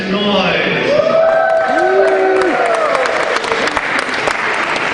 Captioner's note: cheering